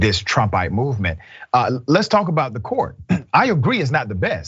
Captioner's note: cough